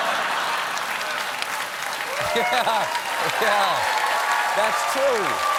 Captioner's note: cheering and applause